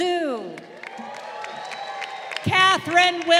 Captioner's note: crowd cheering